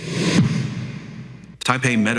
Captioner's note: air whooshing